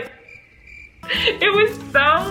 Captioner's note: crickets chirping